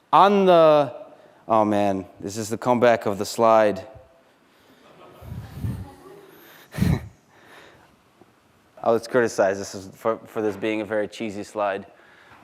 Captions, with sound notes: On the-- Oh man, this is the comeback of the slide, [laughter] I was criticized for this being a very cheesy slide,